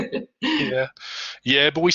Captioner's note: laughs